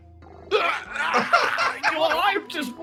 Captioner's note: Ganglion Pain Noises